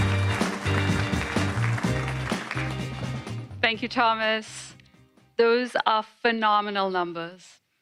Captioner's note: applause